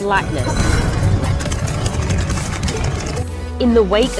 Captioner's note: gun shots and rumbling